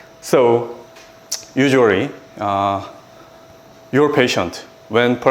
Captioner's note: clicks tongue